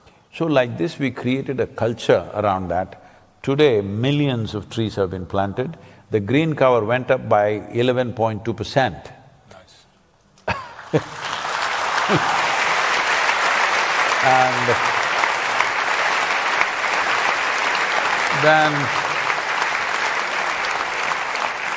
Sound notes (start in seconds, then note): 10.1 applause